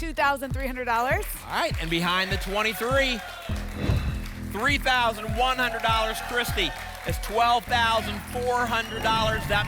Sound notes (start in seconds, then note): 3.8 whoosh